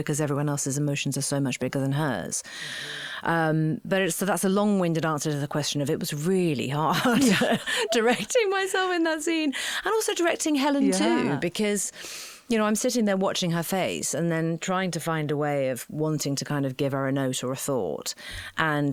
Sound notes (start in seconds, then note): 7.0 laughing